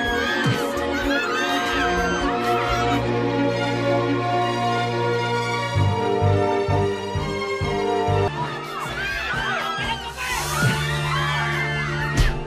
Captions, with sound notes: -[screaming] -That's enough! ERPAK -[screaming, clamoring] -You want more?